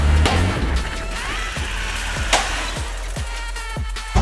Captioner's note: engine cutting